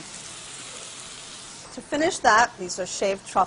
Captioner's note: sizzling